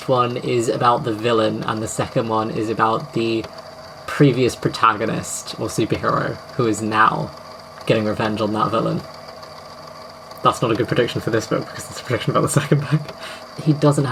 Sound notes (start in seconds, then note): 9.0 laughing